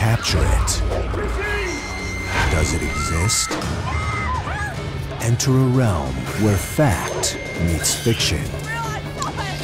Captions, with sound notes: [ WOMAN SCREAMING ] ENTER A REALM WHERE FACT MEETS FICTION... IT'S REAL! I SAW IT!